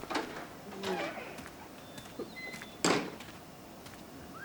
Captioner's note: door squeaks